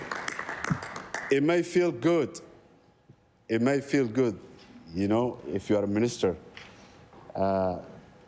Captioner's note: applause